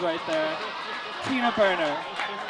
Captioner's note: audience laughs